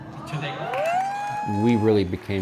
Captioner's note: audience cheering